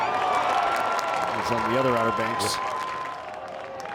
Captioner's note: crowd cheers